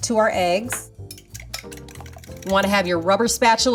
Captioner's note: bowl clacking